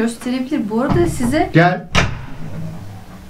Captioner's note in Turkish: Kapı tıklama